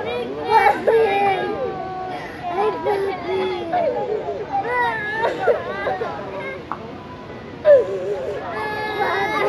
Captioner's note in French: Enfants en pleurs